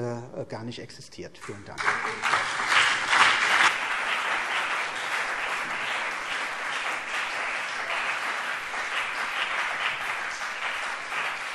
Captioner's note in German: Beifall CDU und BÜNDNIS 90/DIE GRÜNEN